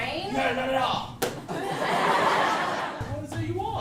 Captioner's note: laughter